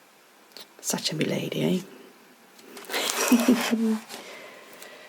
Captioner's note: giggles